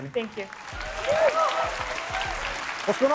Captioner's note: applause